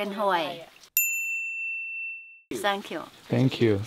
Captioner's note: a bell rings